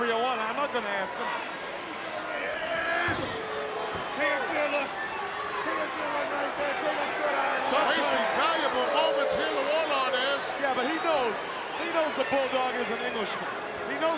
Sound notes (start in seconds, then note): 2.4 Warlord grunting